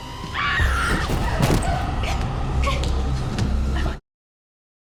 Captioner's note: Ms. Hemlock screaming